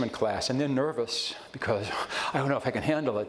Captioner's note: gasps